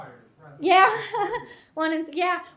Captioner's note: chuckles